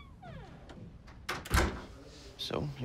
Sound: door closing

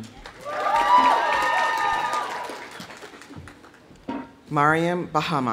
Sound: audience applauding; audience cheering

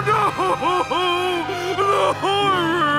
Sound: crying

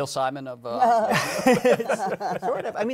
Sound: laughter

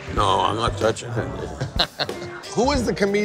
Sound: laughing

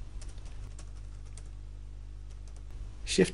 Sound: sound of typing

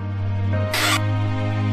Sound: door sound

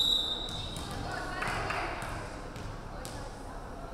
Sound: referee whistling

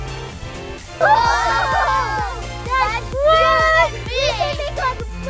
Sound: all Shouting

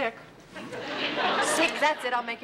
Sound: laughter

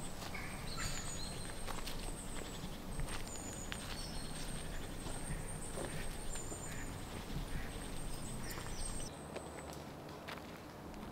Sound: birds Chirping and Footsteps

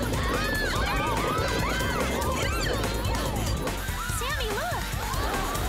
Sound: screaming

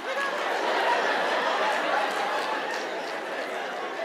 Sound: audience laughing

